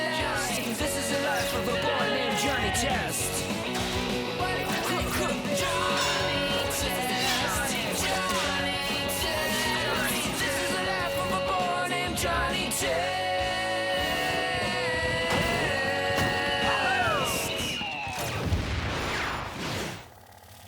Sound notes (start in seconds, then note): 15.3 fireworks whistle and explode